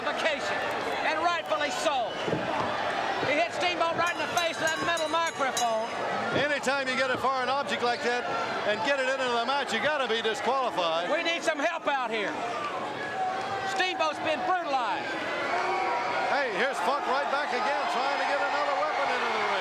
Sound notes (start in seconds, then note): 5.6 bell ringing